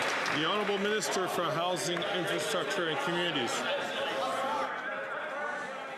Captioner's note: some Applause